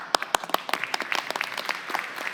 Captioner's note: applause